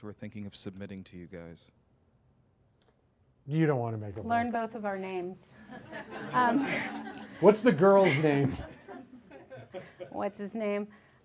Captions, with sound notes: who are thinking of submitting to you guys? - You don't wanna make a buck. - Learn both of our names. (audience laughs) - What's the girl's name? - What's his name?